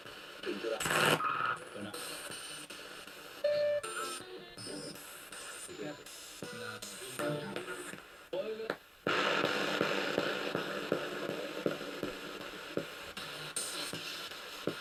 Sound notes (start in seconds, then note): 3.2 sound of the Spirit Box in the background